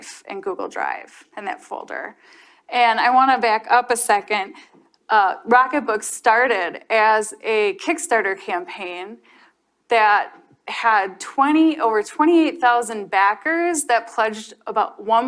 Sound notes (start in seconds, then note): none